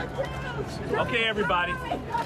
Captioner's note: muffled shouting